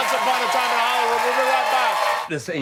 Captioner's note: applause